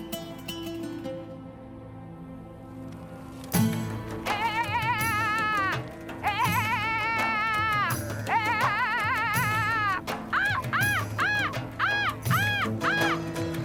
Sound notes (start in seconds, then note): 2.7 imitating goats bleating; 8.2 screeching